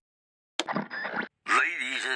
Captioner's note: radio turns on